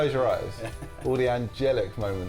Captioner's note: laughs